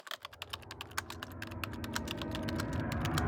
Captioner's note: typing